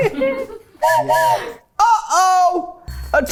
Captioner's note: everyone laughs; whistle blows